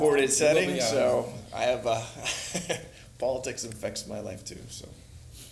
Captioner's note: laughs